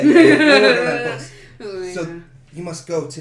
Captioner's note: laughter